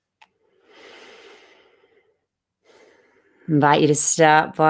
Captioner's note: breathes